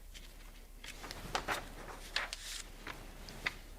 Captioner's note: pages crinkling